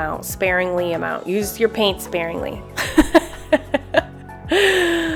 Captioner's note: laughs